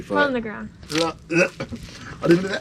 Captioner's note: grunting